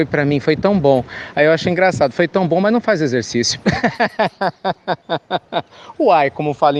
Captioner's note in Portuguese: Risos